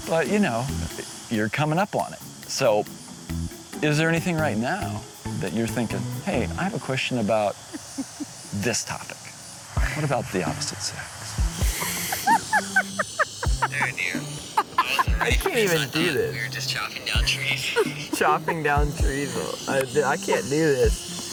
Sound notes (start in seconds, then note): 11.6 laughter